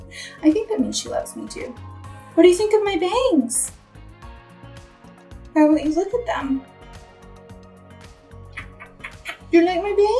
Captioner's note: kisses